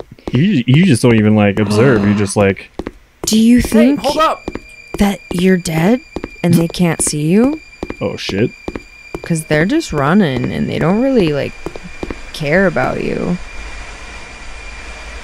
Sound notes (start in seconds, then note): 2.2 gasps